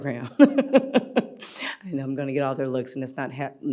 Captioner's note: laughing